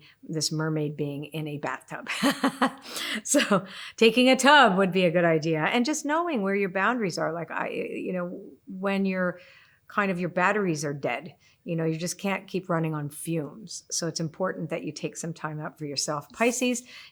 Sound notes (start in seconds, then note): 2.1 laughs